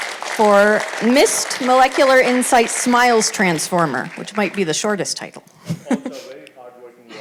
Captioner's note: applause